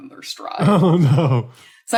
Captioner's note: chuckles